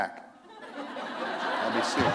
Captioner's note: laughter